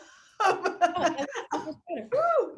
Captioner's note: laughing